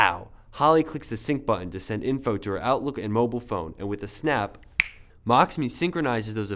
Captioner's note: snap Sound